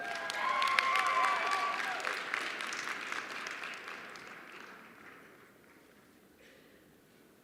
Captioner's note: cheers and applause